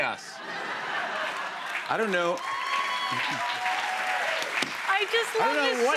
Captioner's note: cheers and applause